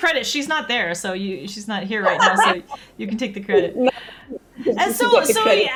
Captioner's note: laughs